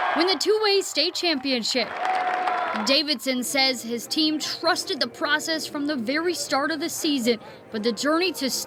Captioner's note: cheering